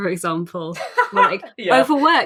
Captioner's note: laughs